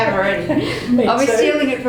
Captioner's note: laughter